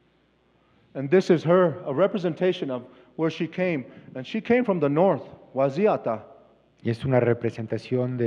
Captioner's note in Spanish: Expositor habla en inglés